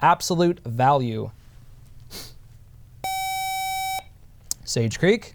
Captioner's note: buzzer